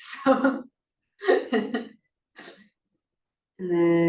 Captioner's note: laughs